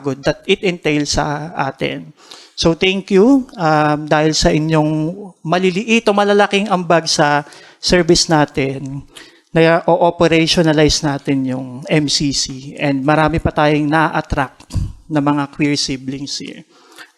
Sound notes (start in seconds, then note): none